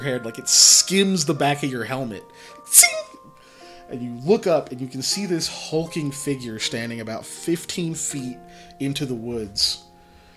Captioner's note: makes metallic sound